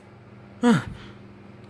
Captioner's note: sigh of divine relief